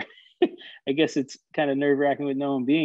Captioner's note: laughing